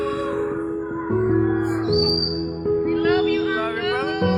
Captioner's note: friends cheering